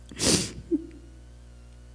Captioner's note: sniffs